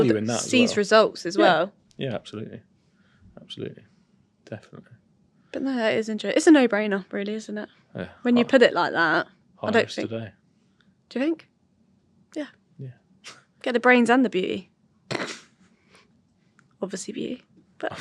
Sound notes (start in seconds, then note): 12.8 chuckles; 14.9 chuckles